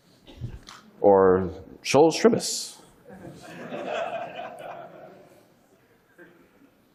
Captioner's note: audience laughing